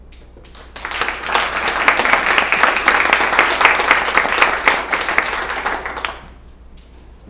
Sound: applause

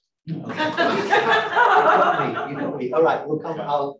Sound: audience laughing

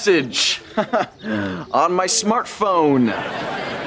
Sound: chuckles

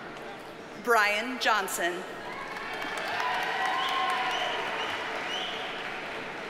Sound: audience cheers and applauds

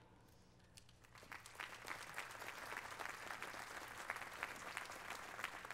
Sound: applause

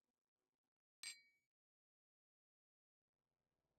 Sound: glass clinking

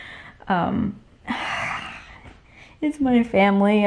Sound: sighs

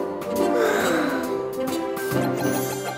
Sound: yawn

